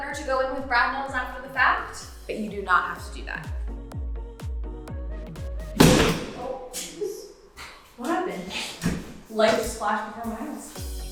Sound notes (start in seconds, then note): 3.8 bright music; 5.8 step stool banging; 7.0 giggling